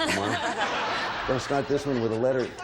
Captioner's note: all laugh